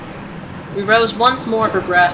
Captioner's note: roaring water